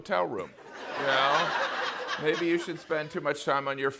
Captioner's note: laughter